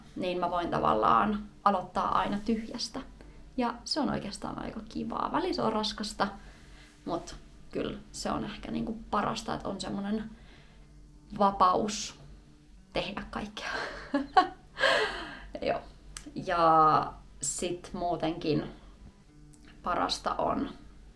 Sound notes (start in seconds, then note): 13.7 laughter